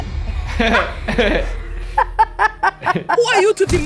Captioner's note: laughing